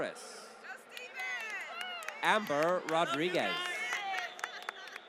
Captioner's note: applause